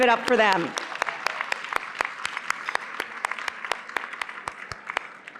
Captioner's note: applause